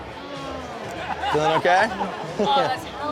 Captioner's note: customer humming